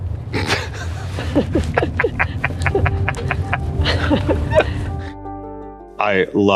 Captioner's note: laughter